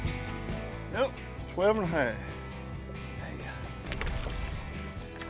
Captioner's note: water splashing